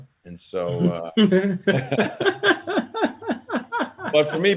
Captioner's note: laughing